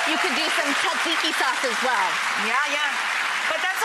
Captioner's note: clapping